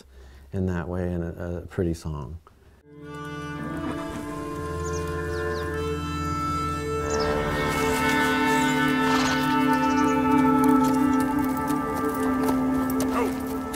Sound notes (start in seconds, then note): 4.1 western music playing; 7.5 grass rustling; 10.2 birds chirping